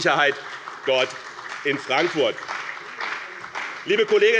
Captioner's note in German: Beifall bei dem BÜNDNIS 90/DIE GRÜNEN und der CDU